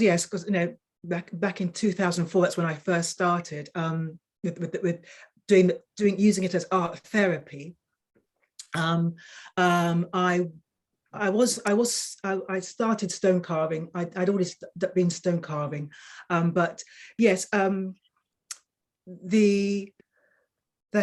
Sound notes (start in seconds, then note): none